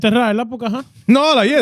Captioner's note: speaking In Foreign Language